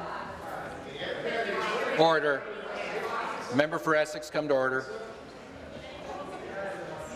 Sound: conversation din

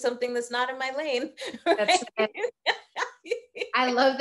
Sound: laughing

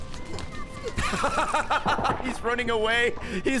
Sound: laughs

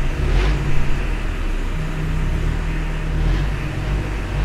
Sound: engine grinding

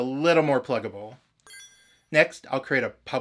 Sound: bling

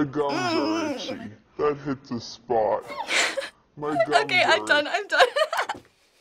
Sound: giggles; laughs

